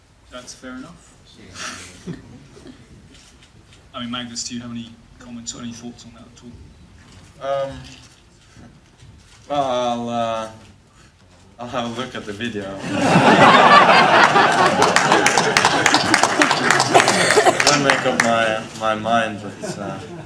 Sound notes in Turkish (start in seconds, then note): 12.8 kahkahalar ve alkışlar